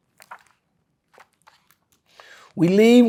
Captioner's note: pages rustling